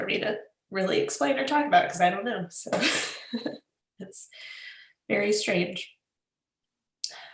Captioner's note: laughs